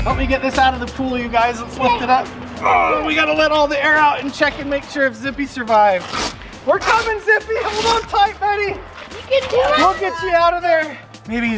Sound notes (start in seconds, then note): 2.5 groans; 5.8 velcro rips apart